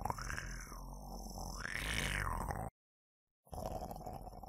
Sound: monster growling

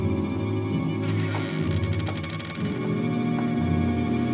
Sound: door creaks

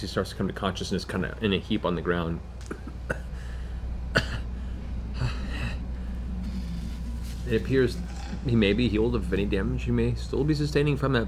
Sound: coughs

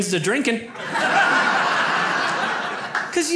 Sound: audience laughs

